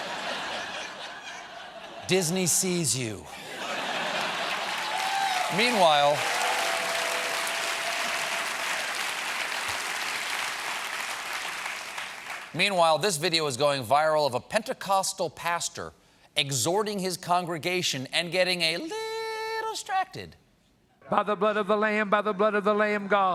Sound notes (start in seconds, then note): 1.7 cheers and applause; 1.7 laughter